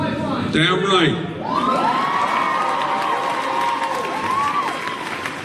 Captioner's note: audience cheering